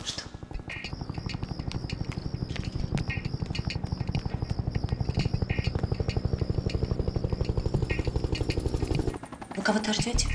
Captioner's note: helicopter engine